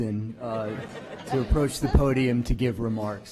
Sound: laughter

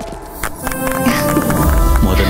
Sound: applause

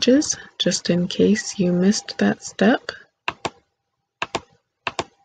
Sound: click

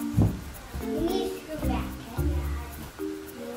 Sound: baby talk

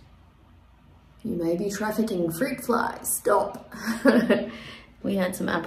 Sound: chuckles

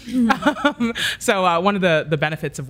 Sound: laughs

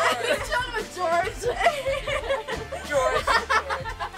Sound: laughs

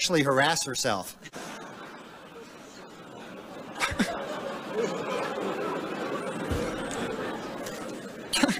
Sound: laughter

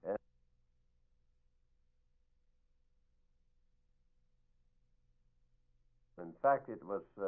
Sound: silent

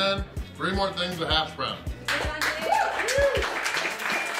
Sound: crowd cheering

